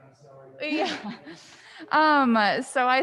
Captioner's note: laughs